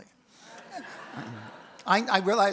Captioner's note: audience laughs